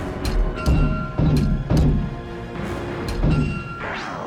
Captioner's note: door open close